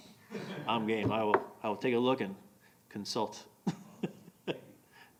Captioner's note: laughing